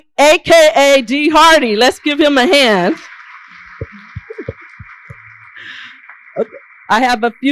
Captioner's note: applause